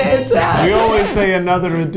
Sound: record scratching

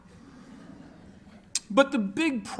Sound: laughter

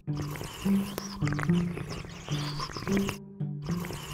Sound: slurping

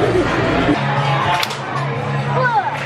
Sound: claps

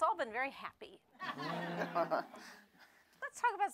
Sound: laughter

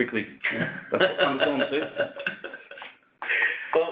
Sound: laughs

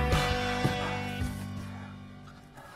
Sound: grunting; panting

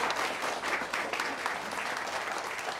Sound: applause

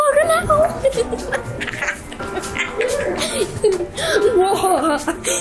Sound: laughing

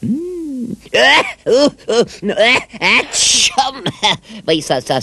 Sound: sneezes

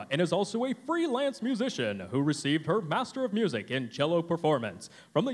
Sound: none

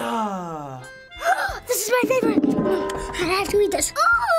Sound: gasp

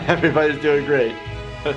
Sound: triumphant upbeat music; chuckles

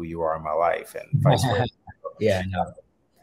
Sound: chuckles

